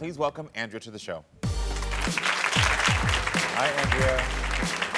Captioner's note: audience clapping